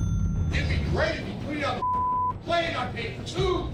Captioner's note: cash register beeps, dings; man yelling